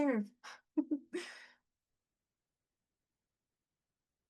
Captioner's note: laughing